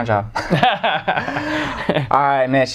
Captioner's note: laughter